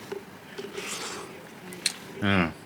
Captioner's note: slurps